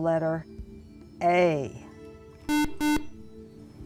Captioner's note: buzzer